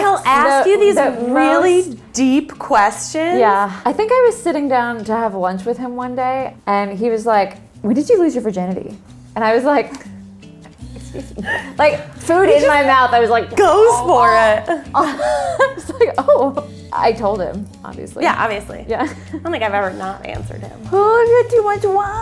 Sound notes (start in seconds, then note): 10.8 laughter; 13.7 gagging